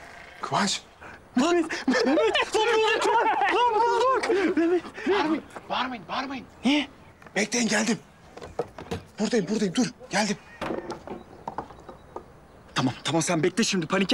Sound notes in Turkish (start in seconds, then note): 1.4 Gülüyorlar